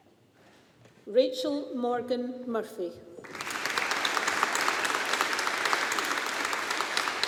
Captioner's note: audience applauding